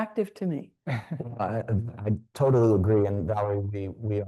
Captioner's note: laughs